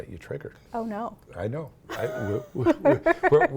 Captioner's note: laughter